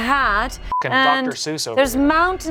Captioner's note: beep